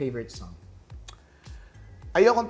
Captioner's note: clicks tongue